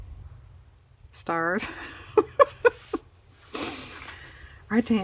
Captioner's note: laughs